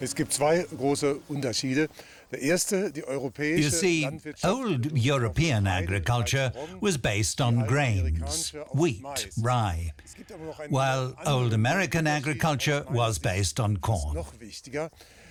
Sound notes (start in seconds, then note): 0.3 man speaking German; 2.4 speaking German